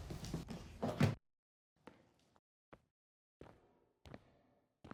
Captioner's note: footsteps